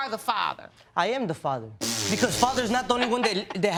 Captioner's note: blowing raspberries